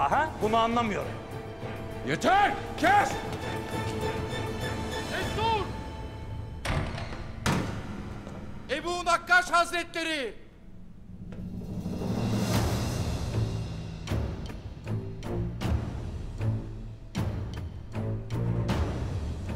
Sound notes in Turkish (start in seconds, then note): 6.4 Kapı açılma sesi; 10.3 Müzik - Gerilim